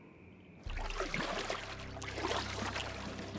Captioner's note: splashing; tense music